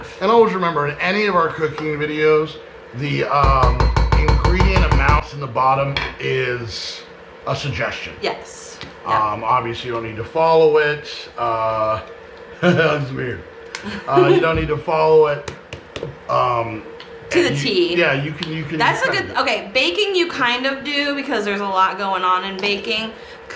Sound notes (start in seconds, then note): 13.8 chuckles